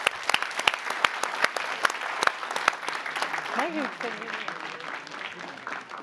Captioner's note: applause